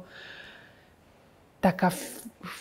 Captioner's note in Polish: cisza